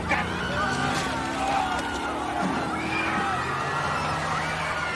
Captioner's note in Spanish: Gritos